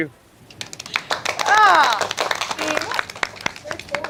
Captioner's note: clapping